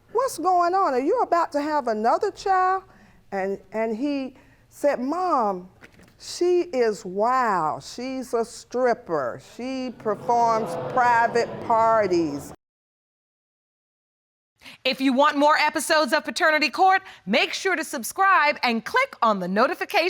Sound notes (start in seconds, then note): 9.8 audience exclaiming